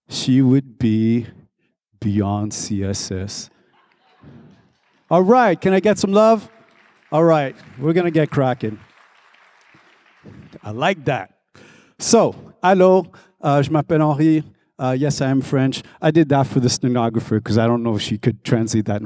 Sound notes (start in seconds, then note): 4.2 crowd applauding; 6.6 crowd applauding; 9.4 crowd applauding; 13.8 speaks in foreign language